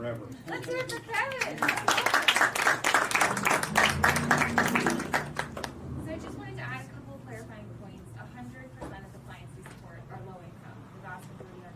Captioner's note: clapping